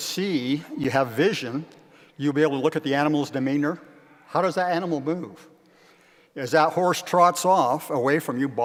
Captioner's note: none